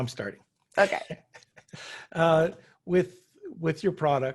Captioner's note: chuckles